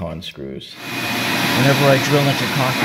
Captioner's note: vacuum